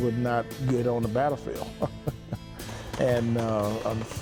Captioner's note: laughs